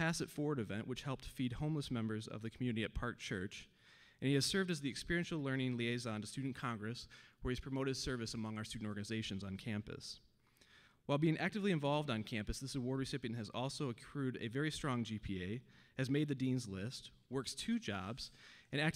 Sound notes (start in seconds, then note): none